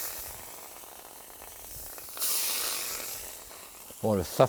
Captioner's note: pan sizzles